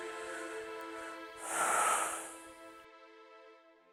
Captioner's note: sigh